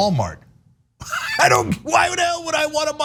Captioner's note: laugh